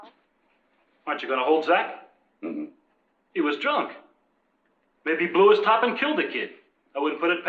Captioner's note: clears throat